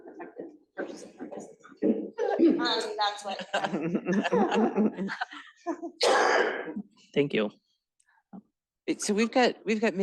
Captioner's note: laughter